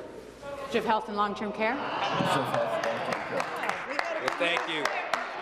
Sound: applause

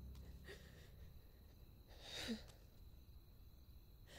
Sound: soft crying

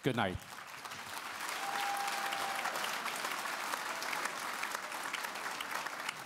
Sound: applause

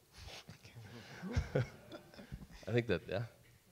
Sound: audience laughs

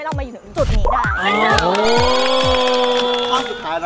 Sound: cheering; applauding

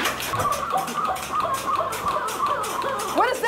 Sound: squeaking

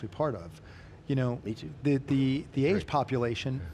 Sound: laughs

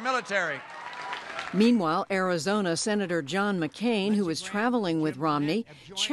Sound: cheering and applause

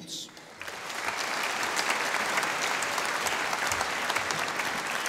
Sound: audience applauding

